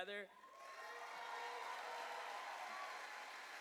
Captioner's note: cheers and applause